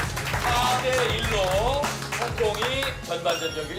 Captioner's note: Applause / The Korean team accepts defeat